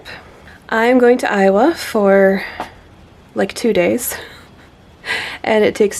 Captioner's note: silent laughter